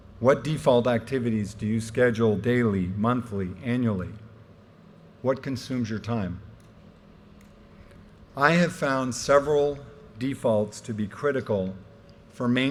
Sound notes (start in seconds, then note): none